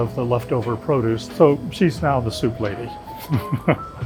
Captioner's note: laughs